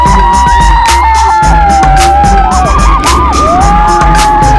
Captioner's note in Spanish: carcajadas; música hinchable